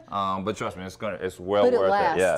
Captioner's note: laughing